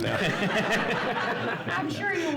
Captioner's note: audience laughs